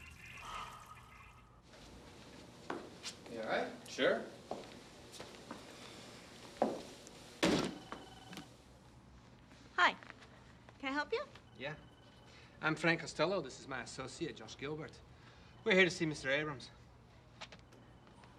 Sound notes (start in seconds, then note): 0.4 sighs; 7.4 briefcase slams on counter